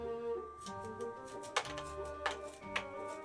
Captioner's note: scraping